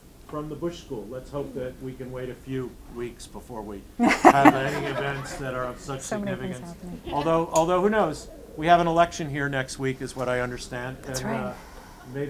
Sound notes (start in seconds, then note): 4.0 audience laughing